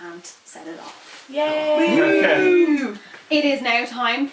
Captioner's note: cheers